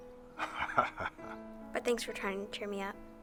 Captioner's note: Bill laughs